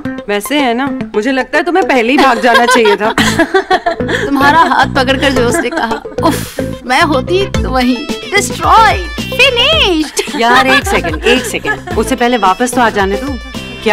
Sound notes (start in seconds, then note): 2.2 All laughing